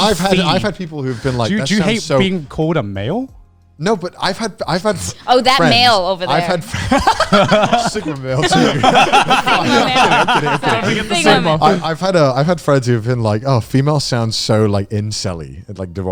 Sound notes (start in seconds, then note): 6.3 men laughing; 9.1 all laughing